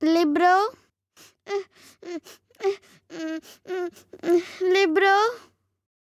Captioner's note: Bommi starts crying